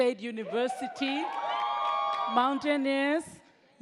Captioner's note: audience cheers